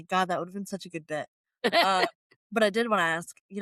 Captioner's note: laughter